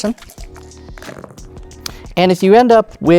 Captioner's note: dice rattling; dice rolling